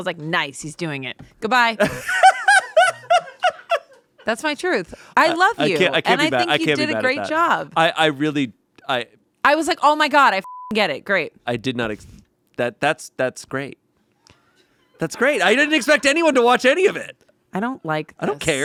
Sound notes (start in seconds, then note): 1.8 laughs; 10.4 beep; 14.7 crew laughs